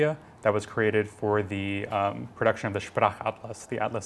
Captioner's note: non-english speech